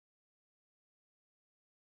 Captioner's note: none